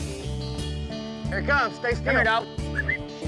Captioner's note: whistles